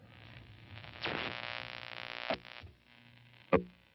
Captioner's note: static buzzing